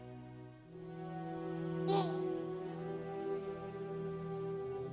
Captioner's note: baby gurgling